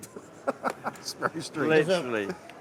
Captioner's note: laughing